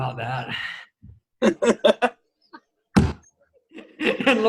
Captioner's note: laughs